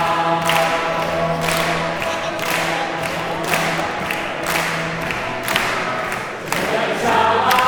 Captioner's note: applause